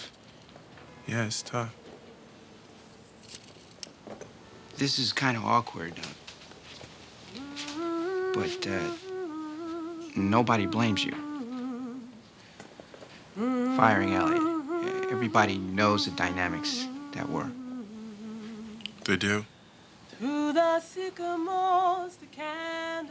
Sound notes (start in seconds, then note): 6.2 Jennifer hums